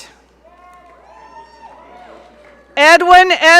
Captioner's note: audience cheering